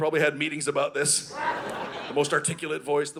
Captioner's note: audience laughing